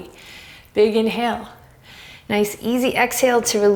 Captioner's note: deep breaths